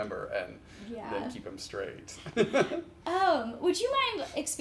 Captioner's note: chuckles